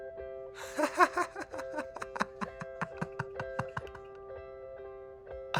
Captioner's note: laughing